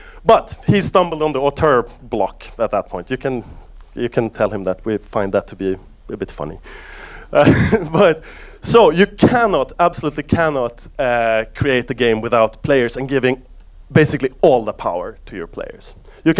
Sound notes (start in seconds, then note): 7.4 laughs